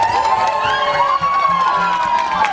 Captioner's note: cheering